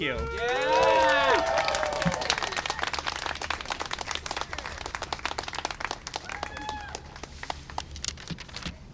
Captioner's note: cheering and applause